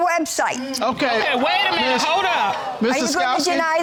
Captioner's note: audience exclaiming